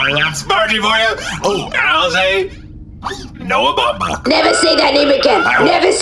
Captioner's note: screaming